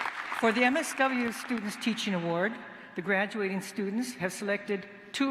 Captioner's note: cheers and applause